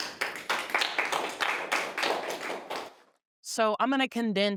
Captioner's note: participants applauding